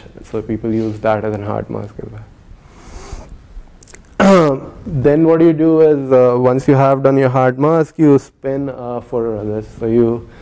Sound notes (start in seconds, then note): 4.2 cough